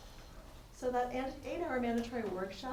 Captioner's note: attendee Through Translator